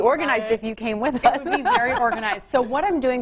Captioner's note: laughing